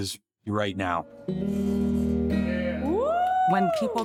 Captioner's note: cheering